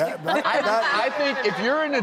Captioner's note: laughing